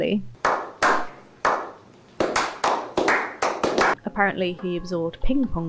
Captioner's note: slow clapping